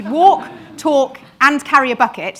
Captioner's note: audience laughing